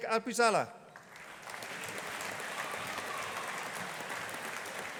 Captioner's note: audience applauding